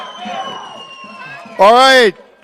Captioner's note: chanting